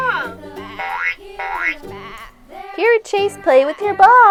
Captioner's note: boinging noises